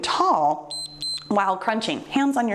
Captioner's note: timer beeps